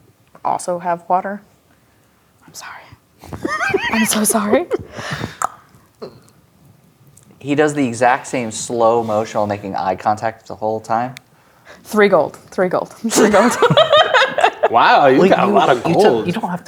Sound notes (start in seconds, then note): 2.2 whispers; 3.3 laughing; 5.4 clicks tongue; 13.1 laughing